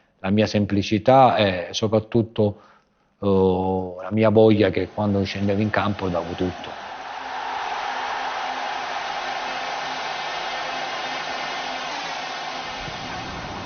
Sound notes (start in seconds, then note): 7.6 crowd roaring